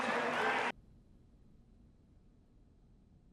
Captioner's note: silence